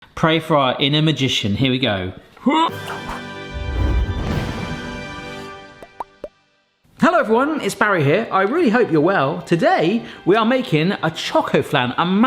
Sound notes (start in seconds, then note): 2.6 royal music; 2.7 bubbles popping